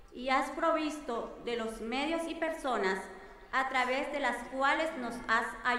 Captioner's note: speaking in foreign language